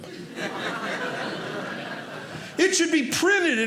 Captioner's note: audience laughing